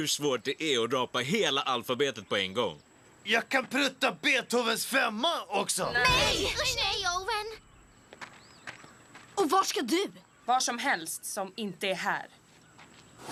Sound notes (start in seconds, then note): none